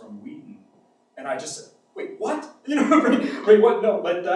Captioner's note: laughs